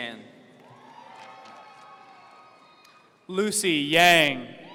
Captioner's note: audience cheering